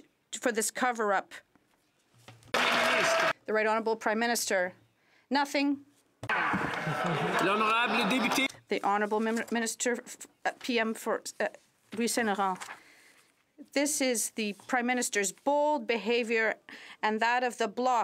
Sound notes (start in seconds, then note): 6.3 some Applause